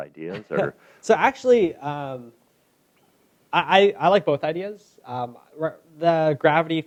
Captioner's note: laughs